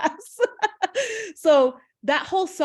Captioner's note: laughs